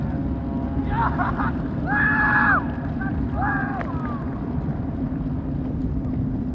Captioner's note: yelling